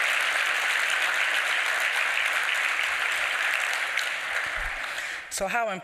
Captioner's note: applause